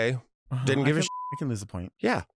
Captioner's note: beep